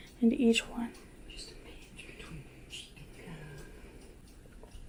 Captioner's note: whispers